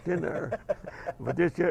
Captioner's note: laugh